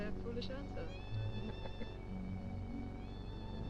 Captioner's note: both chuckling